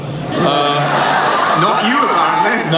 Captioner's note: voiceover; cheering; laughing